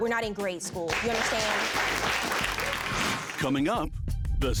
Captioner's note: audience applauding